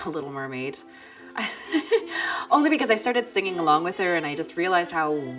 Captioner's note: laughs